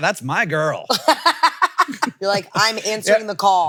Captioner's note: laughs